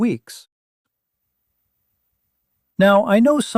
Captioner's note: pause